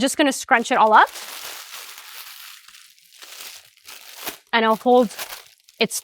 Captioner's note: parchment paper crumpling